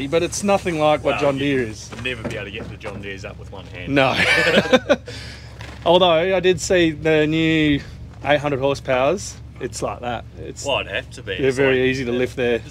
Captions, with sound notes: but it's nothing like what John Deere is. - Never be able to get the John Deere's up with one hand. - No. (laughs) Although I did see the new 800 horsepower's, it's like that. - Well it has to be. - They're very easy to lift there.